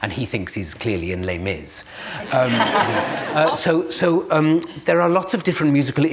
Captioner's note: laughter